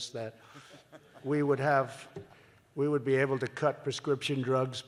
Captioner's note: laughter